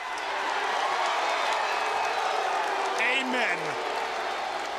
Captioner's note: crowd cheering